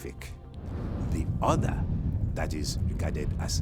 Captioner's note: flame whooshing